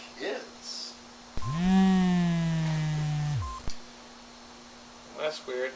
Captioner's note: phone vibrates